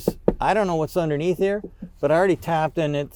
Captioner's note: knocks